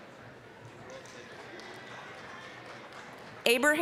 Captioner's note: applause